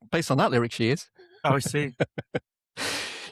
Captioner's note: laughing